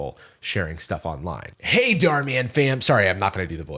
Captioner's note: Dhar Mann voice